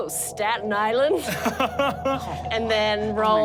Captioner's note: laughs